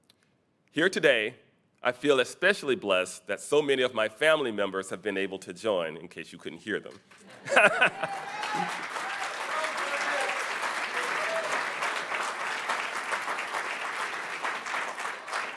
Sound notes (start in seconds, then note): 7.2 laughing; 8.0 audience applauding